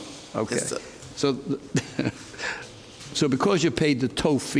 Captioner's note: judge laughs